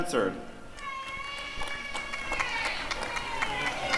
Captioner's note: applause and cheering